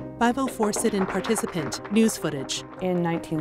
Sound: reverberant piano keys build tension; supporters clap

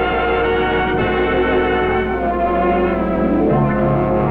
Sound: none

